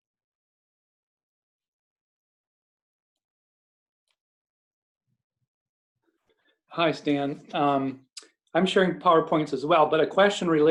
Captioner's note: silence